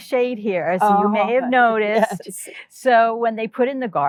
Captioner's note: laughing